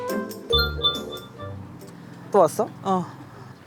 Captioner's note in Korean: 띠링